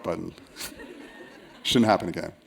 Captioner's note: laughter